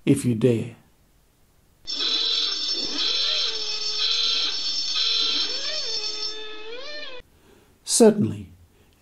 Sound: noisy klaxon

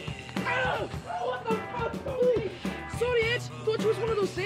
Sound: exclaiming

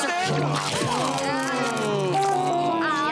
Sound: groaning

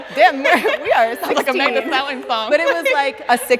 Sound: giggles

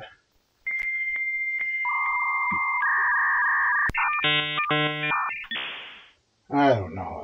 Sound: dial-up modem sounds

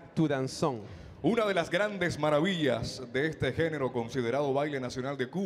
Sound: MC speaking in Spanish

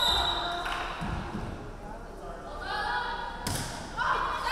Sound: referee whistling

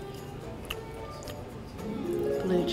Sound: chewing loudly; magical harp music

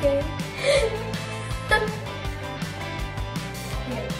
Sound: chuckles

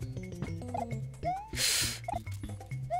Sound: inhaling

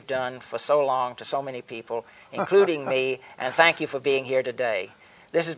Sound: laughs

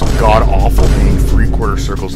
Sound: boom

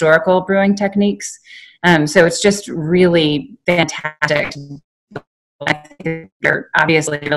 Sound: audio cutting out

